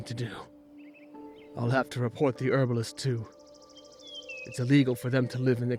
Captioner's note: sighs